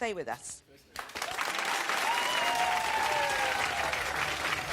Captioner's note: audience cheering